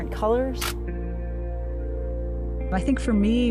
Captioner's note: camera click